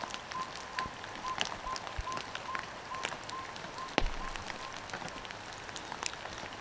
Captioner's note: fire crackling